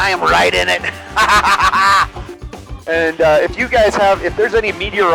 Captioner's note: laughs